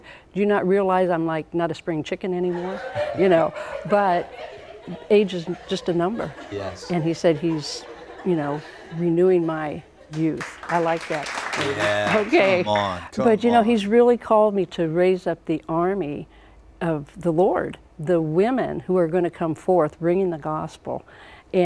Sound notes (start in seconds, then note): 3.4 laughter; 10.3 applause